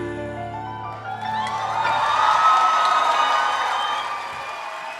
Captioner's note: cheering and applause